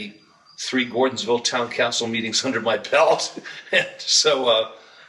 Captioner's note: laughs